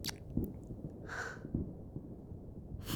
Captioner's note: gentle gasp